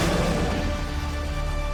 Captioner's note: roars